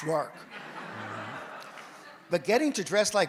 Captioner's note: audience laughs